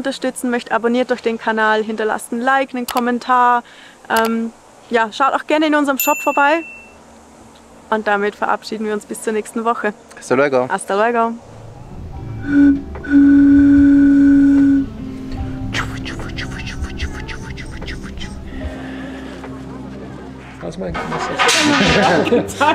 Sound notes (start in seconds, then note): 12.2 whistles; 21.2 laughter